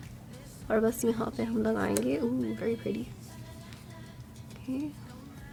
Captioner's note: excited